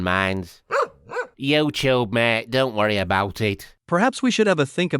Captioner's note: woof woof